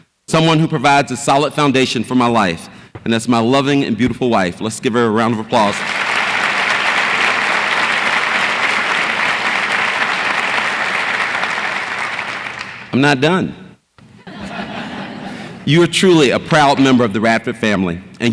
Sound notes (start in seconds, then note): 5.6 audience applauds; 14.2 audience laughs